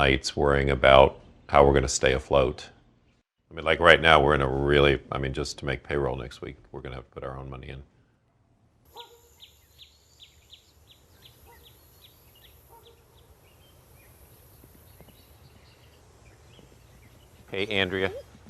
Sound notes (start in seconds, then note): 11.9 birds and insects chirping